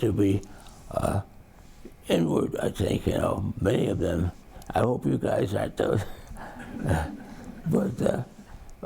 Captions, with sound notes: to be inward I think how many have been, I hope you guys aren't those. (audience laughs) But ...